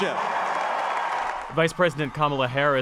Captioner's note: cheering